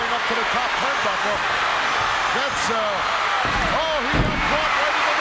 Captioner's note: audience cheering